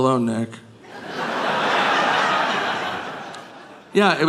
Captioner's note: audience laughing